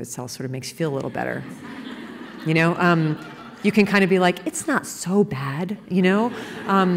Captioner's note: laughter